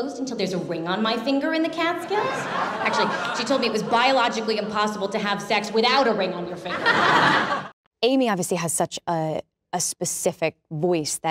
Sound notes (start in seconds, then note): 2.0 crowd laughs; 6.4 crowd laughs